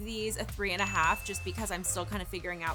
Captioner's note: bell ringing